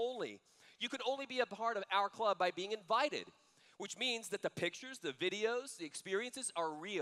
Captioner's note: none